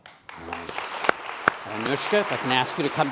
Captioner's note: applause